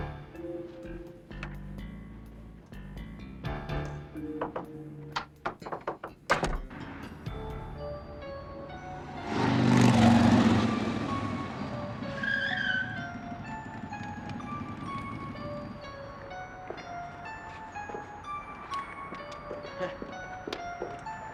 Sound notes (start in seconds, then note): 10.5 tires squealing; 19.5 Puss chuckling